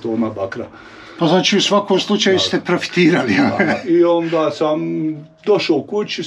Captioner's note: laugh